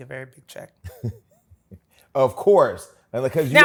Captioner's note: laughs